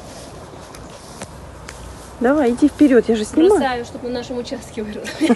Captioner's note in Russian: смеется